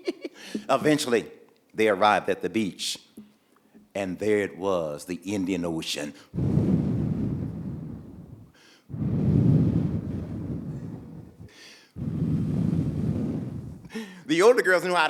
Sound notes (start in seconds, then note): 0.0 Bimwili laughing; 5.9 waves rolling in